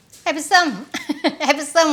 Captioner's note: laughs